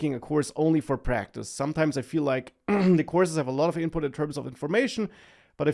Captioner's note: clears throat